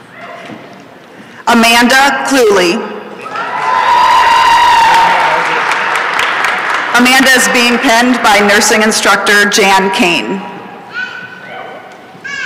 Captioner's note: applause and cheering